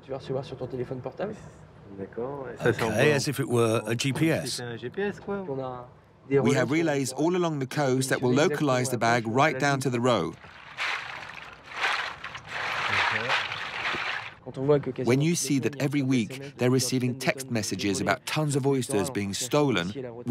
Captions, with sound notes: (speaking in foreign language) Okay, as if it were a GPS? (speaking in foreign language) We have relays all along the coast that will localize the bag right down to the road. (oysters clacking) (speaking in foreign language) When you see that every week they're receiving text messages about tons of oysters being stolen,